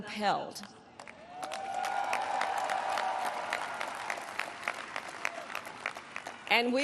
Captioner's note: applause